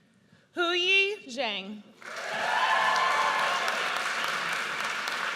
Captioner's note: audience cheers